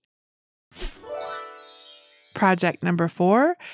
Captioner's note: bells twinkle